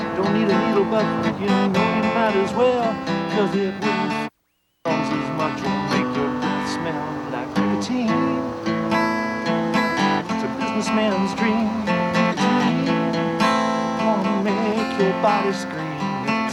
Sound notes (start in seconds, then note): 4.5 beep; 9.4 guitar plays